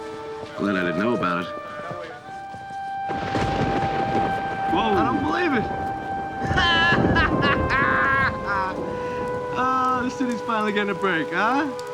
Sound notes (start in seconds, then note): 2.8 thunder rumbling; 6.2 laughing